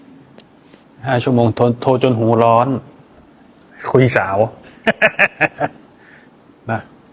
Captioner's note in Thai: เสียงหัวเราะ